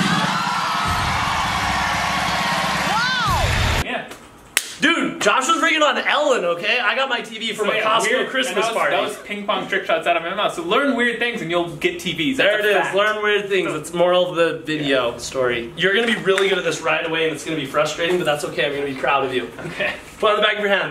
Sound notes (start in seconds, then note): 0.0 audience cheers; 4.5 hands slap